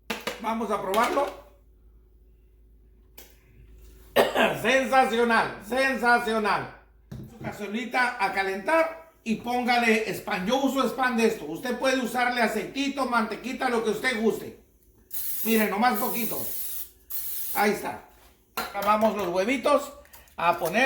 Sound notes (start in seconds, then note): 15.0 spraying cooking oil